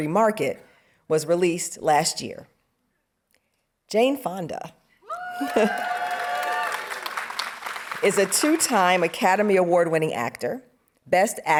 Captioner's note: audience cheering